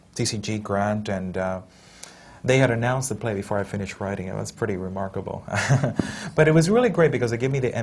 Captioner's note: laughs